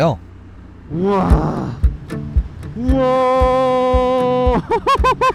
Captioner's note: exclamation